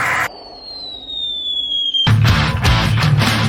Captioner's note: cartoon falling sound